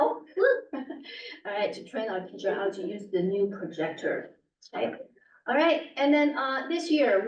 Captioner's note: laughs